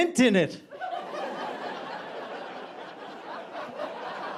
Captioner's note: audience laughing